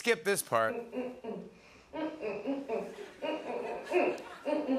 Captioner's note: humming